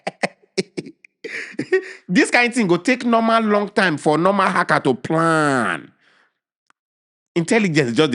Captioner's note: laughing